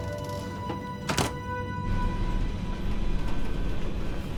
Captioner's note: door clicking